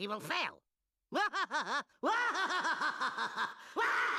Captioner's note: laughing maniacally